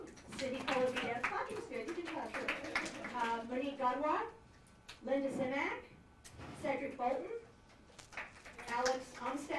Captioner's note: applause